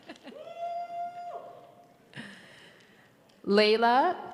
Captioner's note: audience cheers